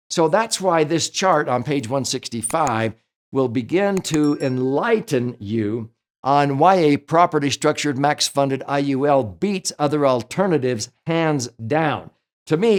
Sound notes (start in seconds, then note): 4.2 bell chimes